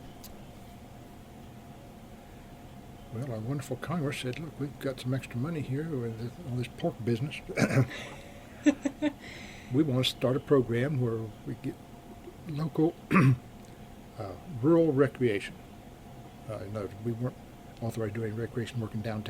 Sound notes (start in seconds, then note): 7.5 BOTH laugh